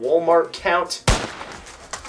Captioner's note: gun shot